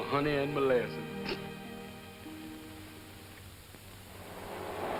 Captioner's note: snickers